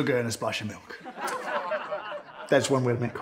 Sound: audience laughs

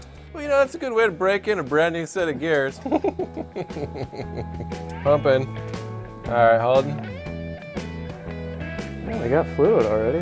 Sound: laughs

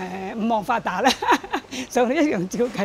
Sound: laughter

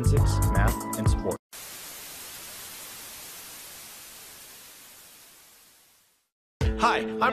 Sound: Static

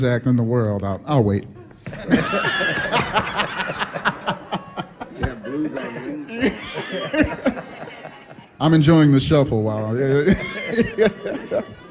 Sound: laughter; laughter

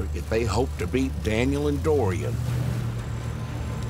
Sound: none

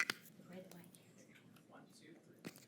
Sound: unmiced voice talking

